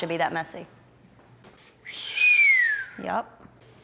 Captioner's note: whistles